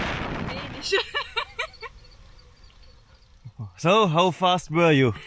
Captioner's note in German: gelächter